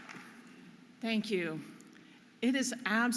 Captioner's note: audience applauding